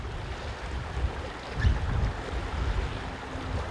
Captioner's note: water flowing